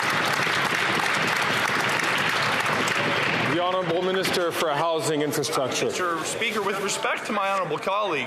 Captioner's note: some Applause